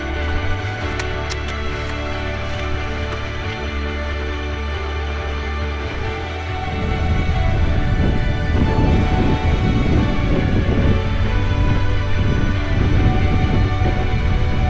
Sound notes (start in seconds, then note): 6.7 wind rushing